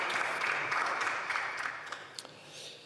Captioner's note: some Applause